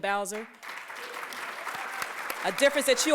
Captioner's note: applause